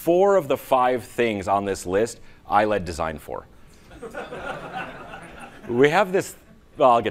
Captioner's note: laughing